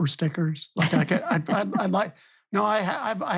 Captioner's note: laughing